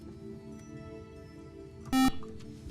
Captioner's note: beep